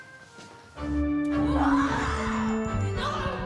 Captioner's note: energetic music; screaming